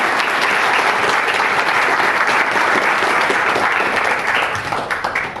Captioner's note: audience applauds